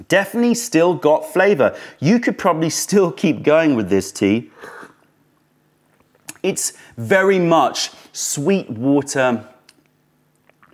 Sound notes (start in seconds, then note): 6.4 sips tea